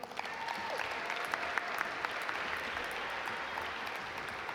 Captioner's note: audience applaud